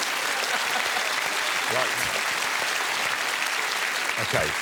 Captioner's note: applause